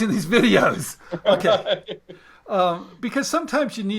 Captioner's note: laughing